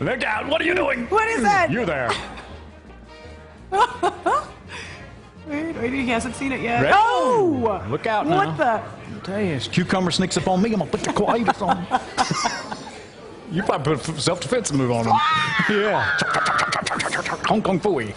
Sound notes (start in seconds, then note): 3.7 laughter